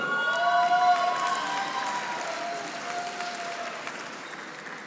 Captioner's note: audience applauding